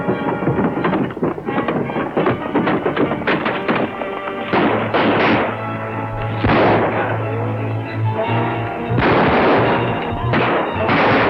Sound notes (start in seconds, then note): 0.2 hooves clatter; 4.4 guns fire; 8.8 guns fire